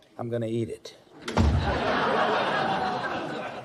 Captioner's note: laugh track